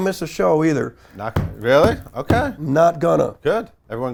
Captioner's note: knocks on chair